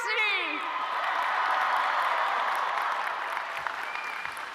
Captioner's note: audience cheering